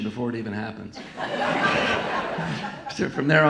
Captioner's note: audience laughing